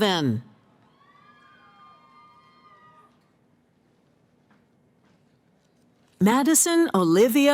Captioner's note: cheering